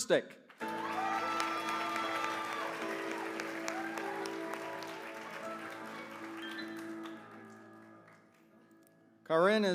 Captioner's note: applause